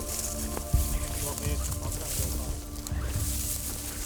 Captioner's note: rustling